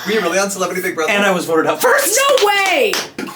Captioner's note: laughs